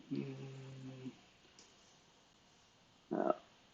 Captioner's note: humming